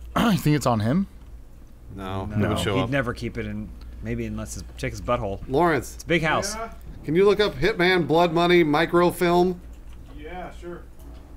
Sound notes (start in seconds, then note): 5.5 yelling across the room; 6.2 yelling back; 7.0 yelling to Lawrence